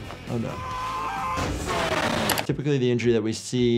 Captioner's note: crash; yelling